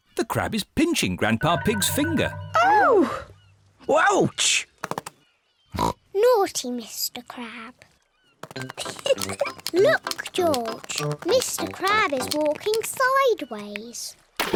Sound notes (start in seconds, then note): 5.7 oinks; 8.7 giggles